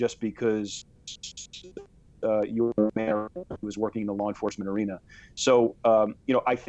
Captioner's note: voice muffled